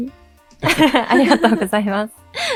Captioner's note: chuckles